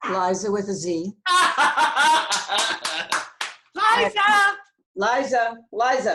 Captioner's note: clapping and laughing